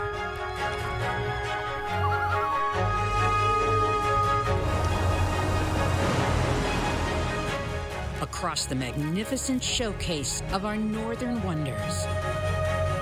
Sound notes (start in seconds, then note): 1.3 loon calls; 4.6 wind blowing; 4.6 water rushing